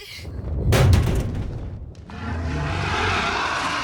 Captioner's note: car thuds; dragon growls